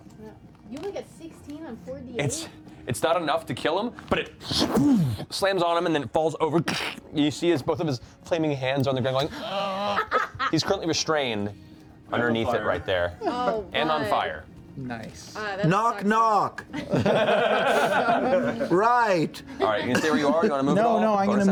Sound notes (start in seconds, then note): 9.3 groans; 16.7 laughter